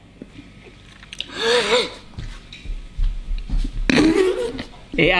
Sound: gasping

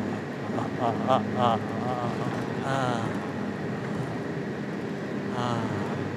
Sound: blissful groaning

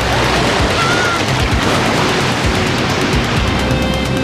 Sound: kids yelling

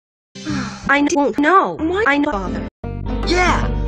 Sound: sigh

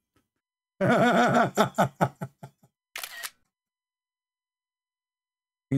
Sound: Ketawa

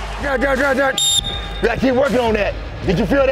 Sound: whistle

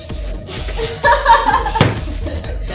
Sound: laughter

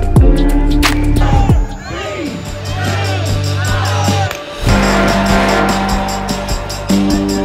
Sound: crowd

